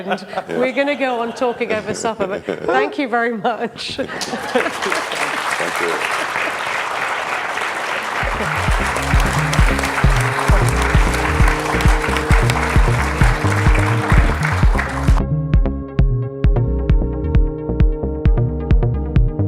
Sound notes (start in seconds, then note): 5.3 laughs; 13.6 applauds